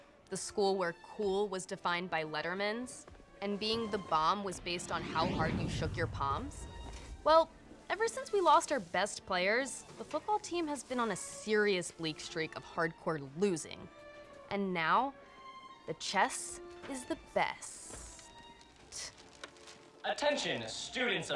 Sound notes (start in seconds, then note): none